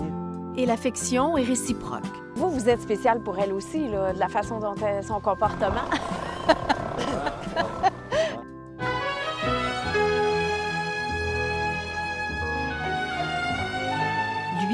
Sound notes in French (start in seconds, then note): 5.4 rire